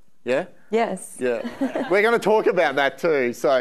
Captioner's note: audience laughing